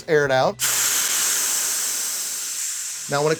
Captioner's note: gas hisses